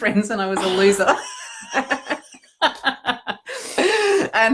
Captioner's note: laughing